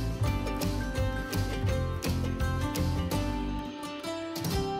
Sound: none

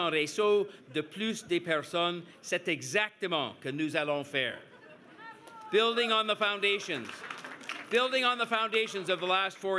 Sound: speaking french

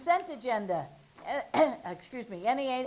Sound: coughs

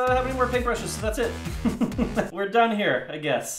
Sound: laughs

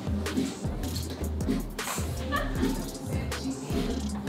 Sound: hahahaha

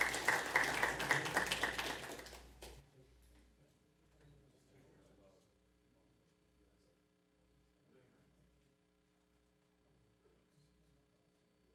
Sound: applause

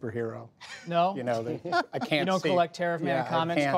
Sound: laughter

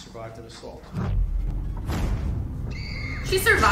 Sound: softly screams; dramatic tone

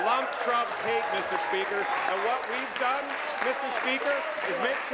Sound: applause

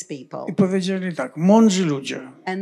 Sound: foreign language

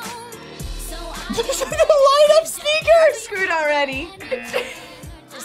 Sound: laughs; buzzer

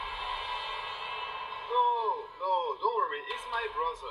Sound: in English

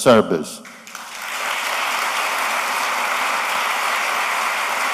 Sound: applause

